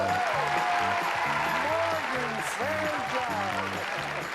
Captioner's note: imitates audience